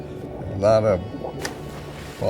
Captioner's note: water splashing